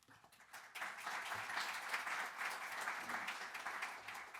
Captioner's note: audience applauding